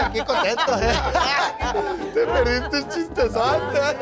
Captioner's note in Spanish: risas